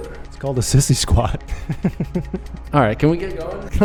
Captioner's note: laughs